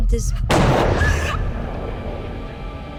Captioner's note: banging sound